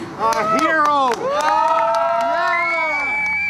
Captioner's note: cheering and applause